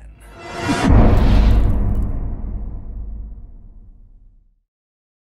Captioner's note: impact